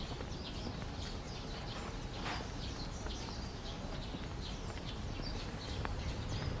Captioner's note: birds chirping